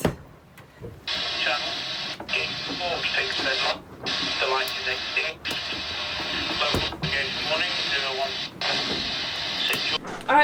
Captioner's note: radio static and voice